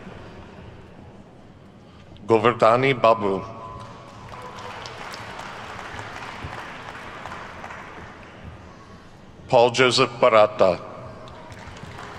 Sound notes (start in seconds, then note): 3.7 attendees clapping